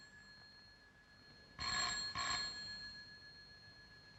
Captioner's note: ringing continues